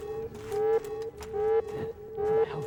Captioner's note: alarm blaring continues